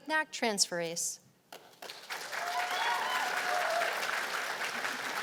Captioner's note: cheers and applause